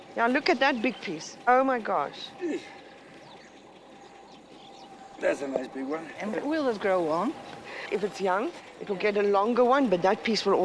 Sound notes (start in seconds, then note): 3.0 grunts